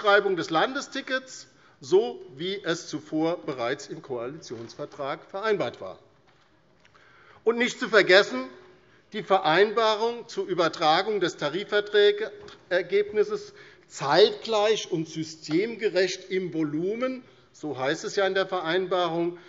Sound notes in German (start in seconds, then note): none